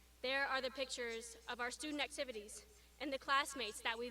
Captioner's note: none